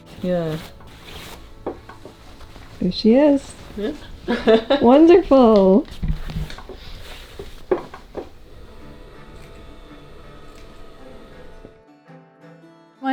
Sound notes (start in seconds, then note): 3.8 laughing; 6.8 fabric scratching; 9.3 gentle lively music